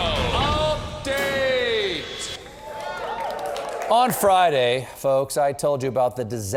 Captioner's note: applause